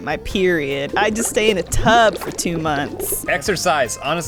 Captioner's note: bubbling